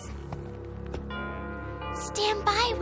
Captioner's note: doorbell ringing